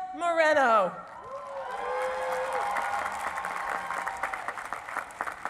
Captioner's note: cheering and applause